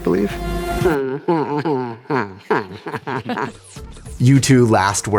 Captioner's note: laughter